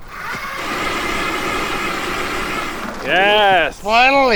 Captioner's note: drill buzzing